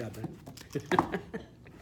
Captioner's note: both laugh